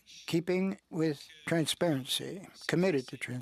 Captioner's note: speaking French